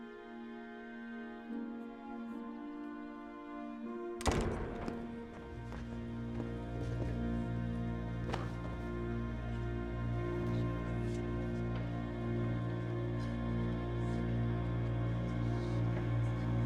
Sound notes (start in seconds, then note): 4.2 door slams shut